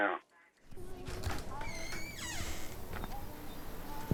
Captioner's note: door squeaks